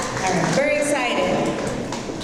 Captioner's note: audience applause